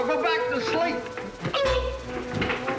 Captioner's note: groans; clattering